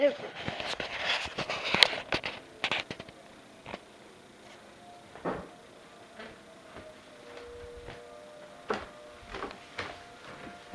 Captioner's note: siren